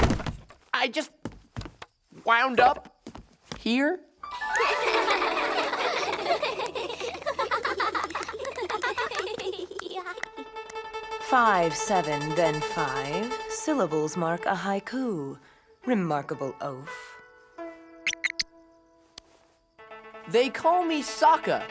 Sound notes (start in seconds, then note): 4.3 laughing